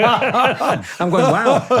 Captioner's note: both laughing